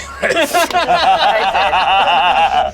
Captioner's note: group laughs